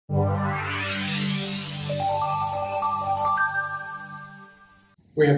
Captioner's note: digital audio effect